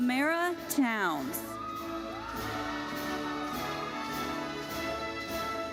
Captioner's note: audience cheers and applauds